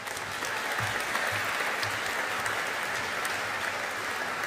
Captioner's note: audience applauding